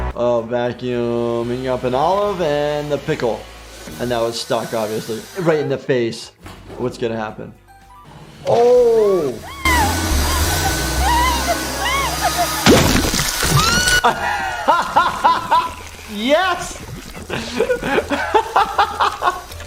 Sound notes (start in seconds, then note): 9.0 skunk screeching; 9.5 vacuum whooshing; 13.5 laughing